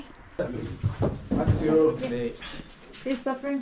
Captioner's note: struggling steps